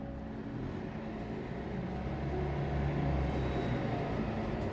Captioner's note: bus engine whirring